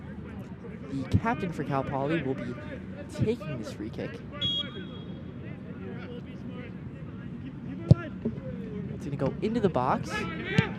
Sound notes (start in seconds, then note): 4.4 whistle blows